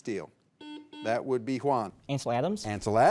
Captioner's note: signal beeps